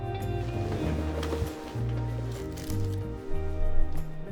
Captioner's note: bed rustles